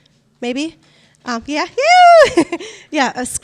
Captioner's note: shouts